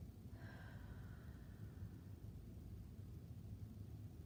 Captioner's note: breathing deeply